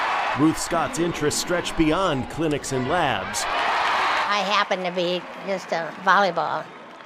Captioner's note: cheering